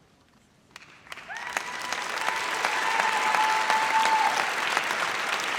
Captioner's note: audience applauds